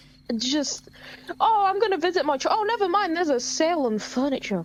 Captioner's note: none